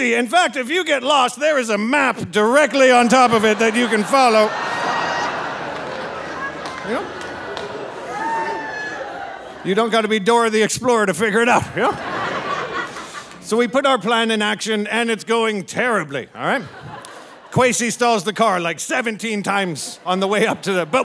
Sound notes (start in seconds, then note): 4.6 audience laughing; 12.3 audience laughing